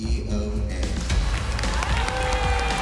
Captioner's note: cheering